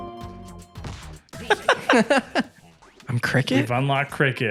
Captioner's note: both laugh